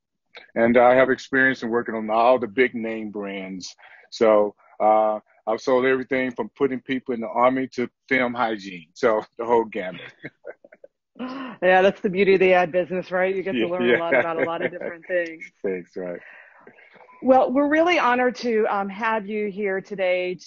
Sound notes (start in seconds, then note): 9.8 laughter